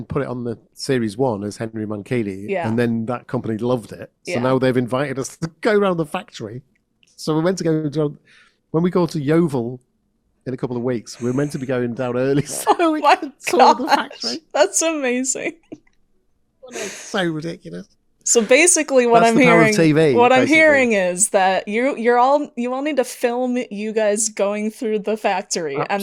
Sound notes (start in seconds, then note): 11.1 laughing; 16.7 still laughing